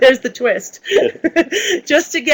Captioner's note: laughs